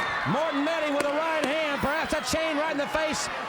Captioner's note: crowd cheering